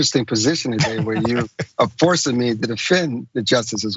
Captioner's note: laugh